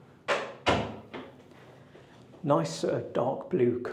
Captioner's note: door clacking